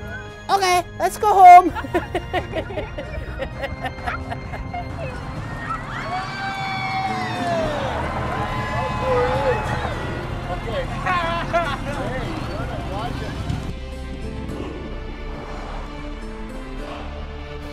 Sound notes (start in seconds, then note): 1.3 laughing; 6.3 shouting